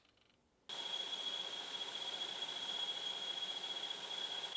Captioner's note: machinery whirring